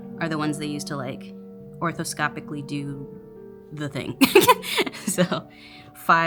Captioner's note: laughs